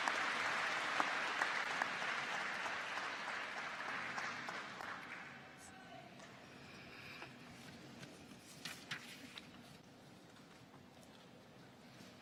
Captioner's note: applause